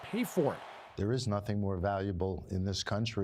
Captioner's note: cheers and Applause